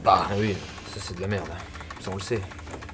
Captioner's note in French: none